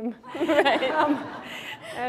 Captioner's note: laughter